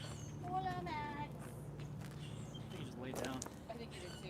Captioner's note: walking sounds